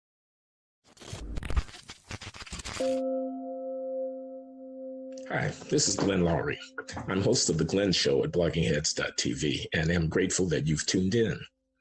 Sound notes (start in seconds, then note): 0.9 static; 2.8 gentle music